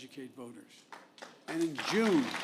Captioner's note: applause